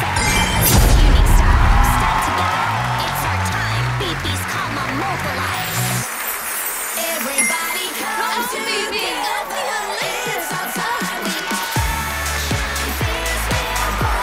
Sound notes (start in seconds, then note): 0.0 magical sounds; 5.6 magical sounds; 9.1 cheering